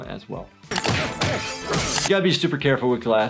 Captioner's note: glass breaking